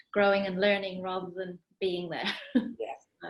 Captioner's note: laughs